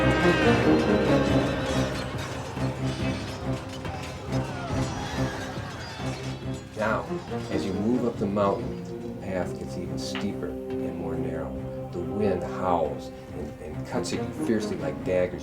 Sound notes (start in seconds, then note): 1.3 suspenseful music; 1.3 swords clanking